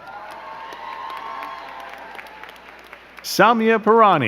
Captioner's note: crowd cheering and clapping